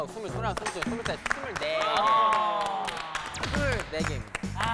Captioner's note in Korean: 자동 박수